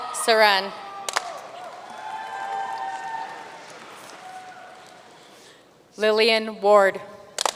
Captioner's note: audience cheering and applauding